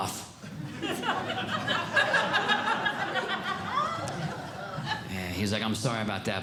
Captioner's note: audience Laughing